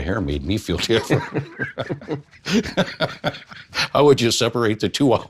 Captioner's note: speakers laughing